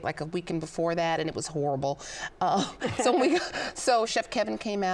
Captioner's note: laughs